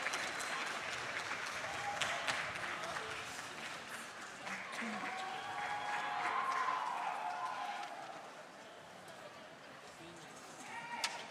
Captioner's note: applause